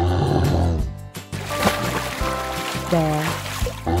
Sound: bear sound

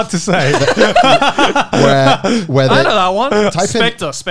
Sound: everyone laughs

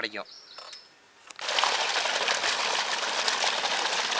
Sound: water flowing

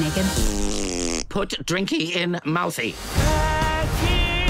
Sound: blowing raspberry

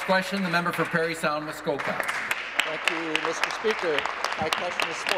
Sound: applause

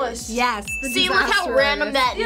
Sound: bell chimes

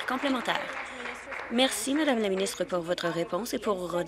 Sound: applause

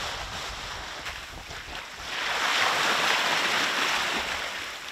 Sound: sound of waves

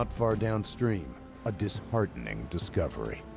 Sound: voiceover

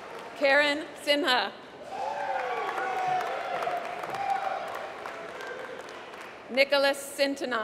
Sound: applause

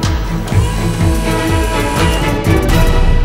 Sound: electric motors

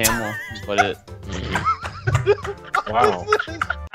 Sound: laughter

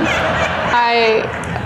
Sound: students laughing

